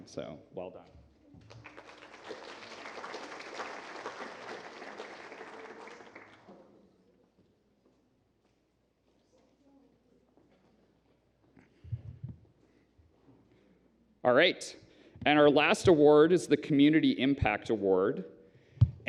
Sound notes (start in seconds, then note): 1.4 applause